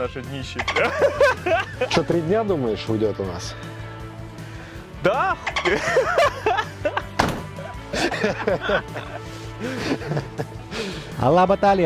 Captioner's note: laughter